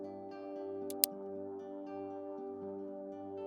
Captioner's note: clicking noise